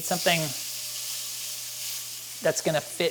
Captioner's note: beef sizzles